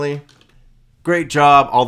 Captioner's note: keyboard clanking